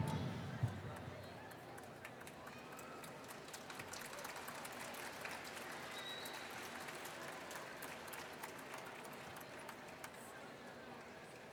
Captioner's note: applause